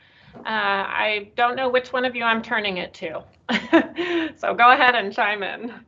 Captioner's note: laughs